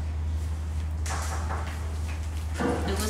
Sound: knock. Knock. Knock

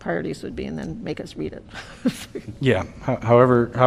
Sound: laughter

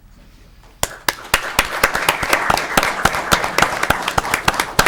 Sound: audience clapping

